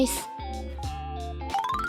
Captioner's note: speaks dubious Japanese